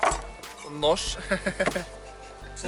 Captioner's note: laugh